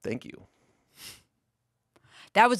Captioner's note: exhales